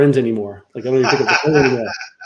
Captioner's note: laughs